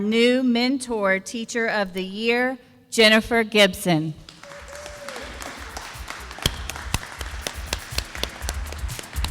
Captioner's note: sound of applause